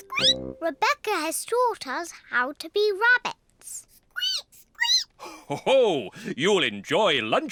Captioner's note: squeaks; peppa and george squeak; laughs